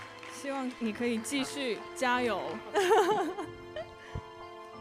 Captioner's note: applause; laughing